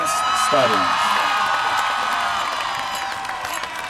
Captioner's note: applause